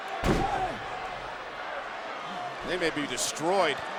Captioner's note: body thuds